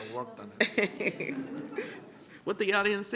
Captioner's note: laughter